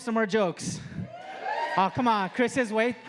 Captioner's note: audience cheering